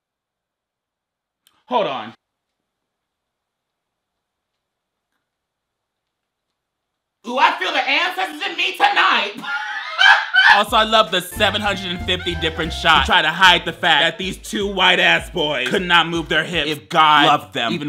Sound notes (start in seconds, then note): 9.3 laughs